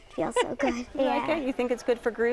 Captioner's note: laughs